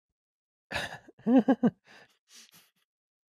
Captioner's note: laughs